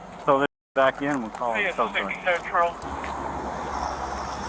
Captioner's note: radio Chatter